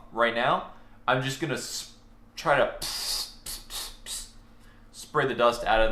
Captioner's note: mimicking spraying